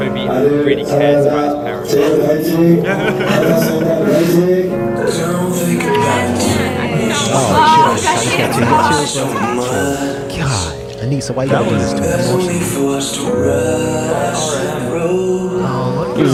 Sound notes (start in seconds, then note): 5.0 weeps; 11.4 cry